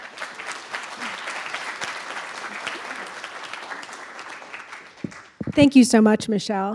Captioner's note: applause